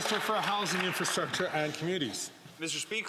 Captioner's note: some Applause